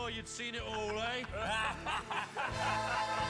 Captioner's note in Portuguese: men laughing